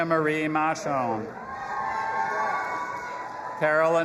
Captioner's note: audience applauding and cheering